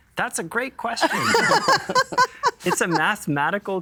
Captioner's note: laughing